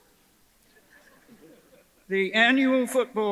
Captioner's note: audience chuckles